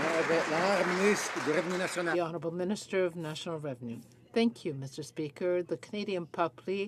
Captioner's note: some Applause